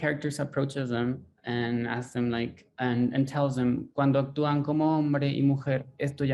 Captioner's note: speaks in foreign language